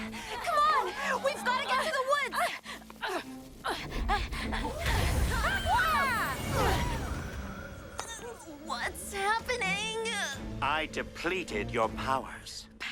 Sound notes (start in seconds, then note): 4.7 both screaming